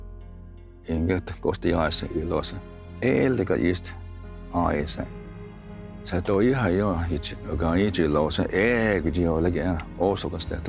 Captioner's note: tells story in Cherokee language